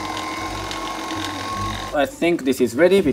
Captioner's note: pasta machine whirs